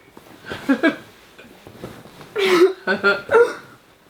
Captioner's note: both laughing